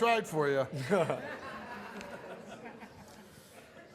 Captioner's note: laughs